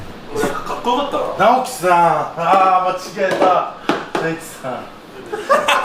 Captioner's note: laughs